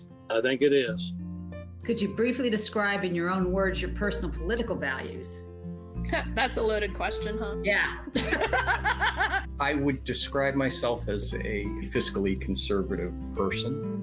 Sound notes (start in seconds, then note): 8.0 laugh; 8.1 laughs